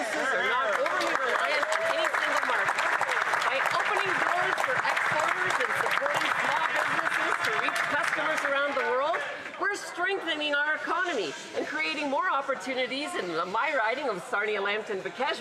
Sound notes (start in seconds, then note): 7.1 applause